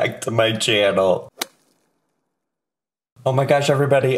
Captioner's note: logo thuds